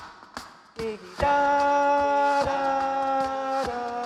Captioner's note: shoes clacking